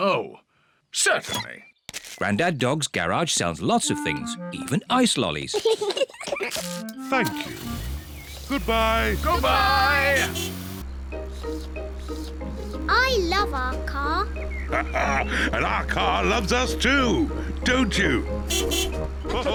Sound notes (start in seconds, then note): 5.5 both laugh; 11.0 slurping; 14.6 laughs; 18.4 toots beeps; 19.2 all laugh